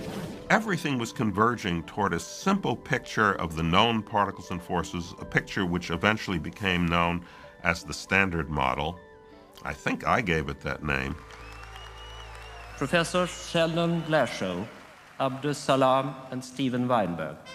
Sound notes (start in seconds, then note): 11.0 crowd cheering